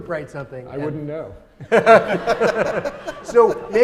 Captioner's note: audience laughing